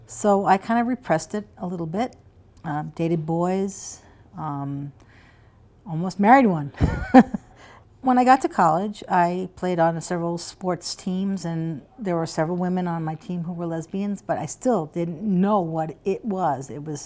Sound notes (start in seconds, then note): 6.8 laughter